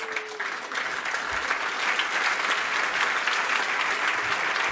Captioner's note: applause